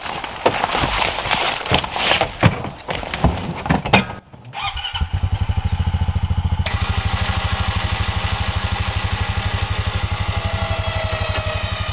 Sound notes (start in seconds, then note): 0.0 brush rustling; 4.5 engine whining and humming